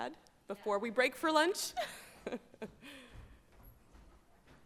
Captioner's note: chuckles